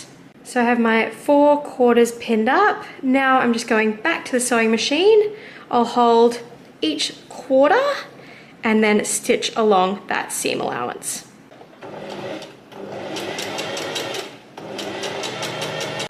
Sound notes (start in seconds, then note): 11.5 sewing machine surges